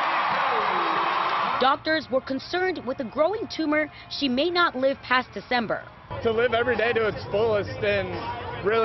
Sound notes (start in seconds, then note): 2.7 cheers